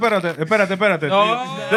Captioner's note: speaking Spanish